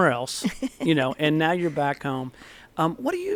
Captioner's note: laughter